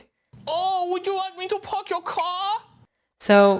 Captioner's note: in a stereotypical Chinese accent